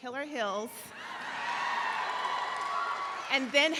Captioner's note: audience laughs